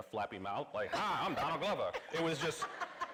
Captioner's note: laughing